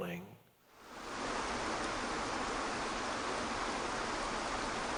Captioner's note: water rushing